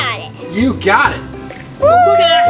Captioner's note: cheering